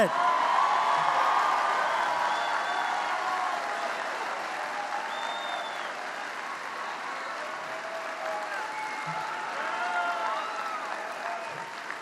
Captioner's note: applause